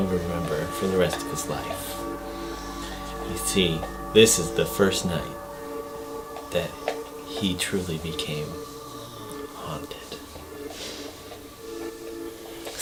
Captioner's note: gasps